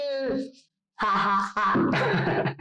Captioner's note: laughs